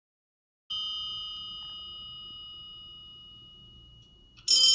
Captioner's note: telephone dings; telephone ringing